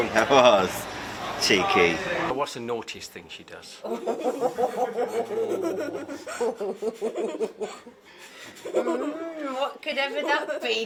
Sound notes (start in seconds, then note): 6.1 laughing